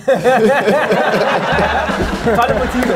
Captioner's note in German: Lachen